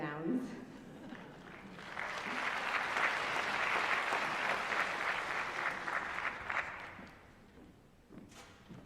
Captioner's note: applause